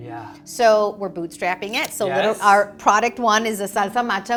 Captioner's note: camera clicks